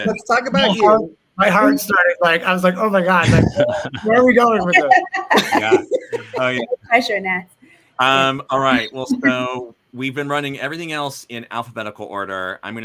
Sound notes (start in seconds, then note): 5.5 all laughing